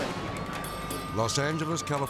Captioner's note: air whooshes; siren blaring